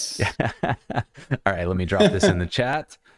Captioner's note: laughter